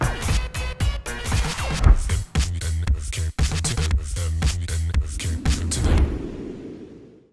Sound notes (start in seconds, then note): 0.0 upbeat music; 4.9 air whooshing